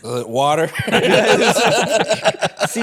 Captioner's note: laughing